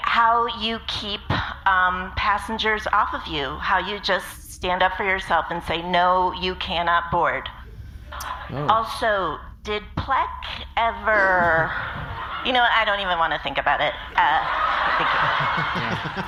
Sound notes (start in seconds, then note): 14.1 audience laughing